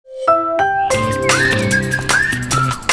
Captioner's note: ring chime